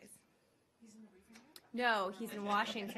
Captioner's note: laughter